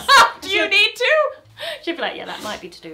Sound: laughs

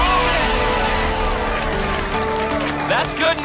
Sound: applause and cheering

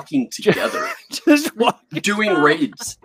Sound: laughs

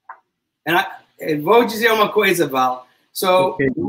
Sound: speaks portuguese

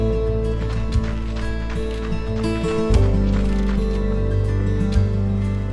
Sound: footsteps crunching

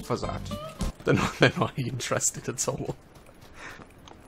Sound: normal voice

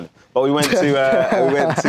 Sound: laughs

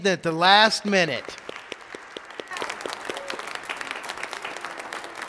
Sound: congregation applauding

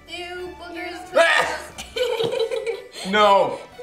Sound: retches

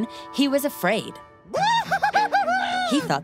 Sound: screams

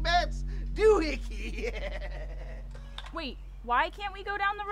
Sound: laughing

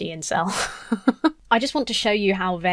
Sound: laughs

